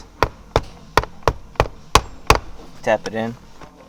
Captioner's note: metal clanking